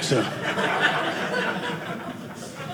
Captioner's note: audience laughing